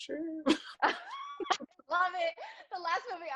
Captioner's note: laughs